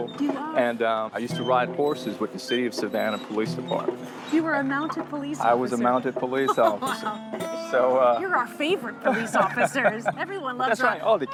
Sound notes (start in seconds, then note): 6.2 laughs